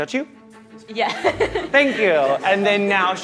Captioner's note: laughing